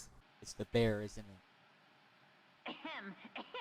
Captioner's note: clip 17, static noise